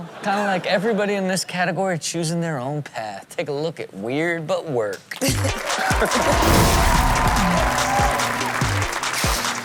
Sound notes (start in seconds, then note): 5.5 audience cheers